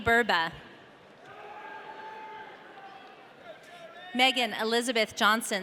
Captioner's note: audience cheering